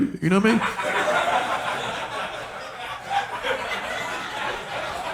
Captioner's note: audience laughing